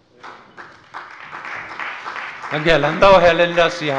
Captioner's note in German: Beifall bei der CDU